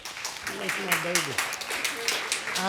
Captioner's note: audience applauding